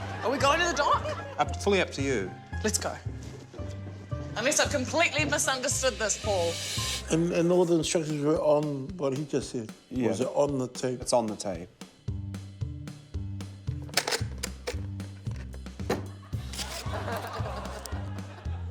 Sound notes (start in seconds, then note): 13.9 click!; 16.7 laughter